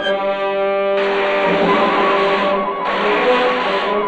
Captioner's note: electricity crackling